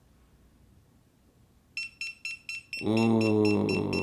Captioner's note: alarm beeping